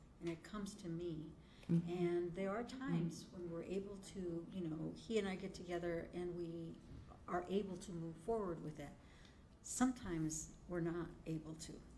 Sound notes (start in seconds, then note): none